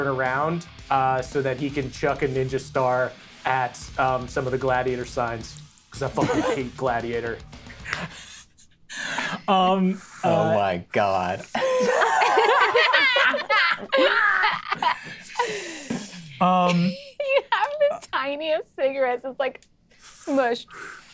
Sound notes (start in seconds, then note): 11.5 players laughing